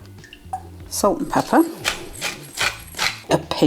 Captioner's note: pepper mill grinding